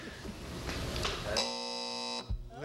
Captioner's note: buzzer